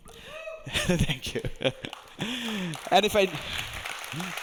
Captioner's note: audience cheering; audience applauding